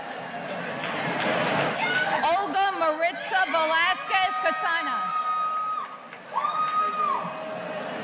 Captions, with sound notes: Olga Maritza Velasquez Casana. (audience cheering)